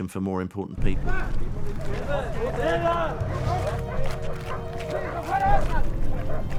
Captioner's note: guards yelling; dogs barking